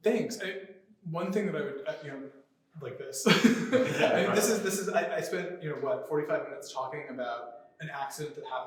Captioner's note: laughter